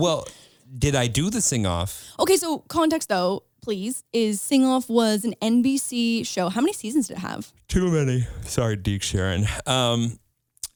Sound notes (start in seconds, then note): 7.8 yawning